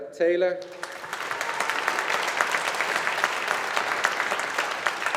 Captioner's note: audience applauding